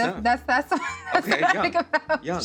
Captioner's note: laughs